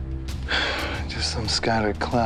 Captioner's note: sighs